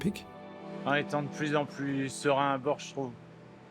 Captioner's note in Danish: på fransk